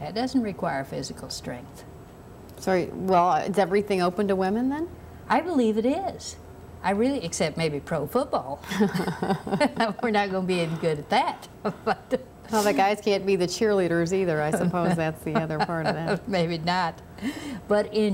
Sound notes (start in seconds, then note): 8.6 laughter